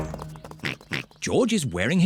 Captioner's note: oinks